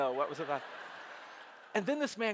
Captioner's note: audience laughing